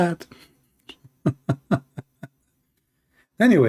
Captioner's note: Ketawa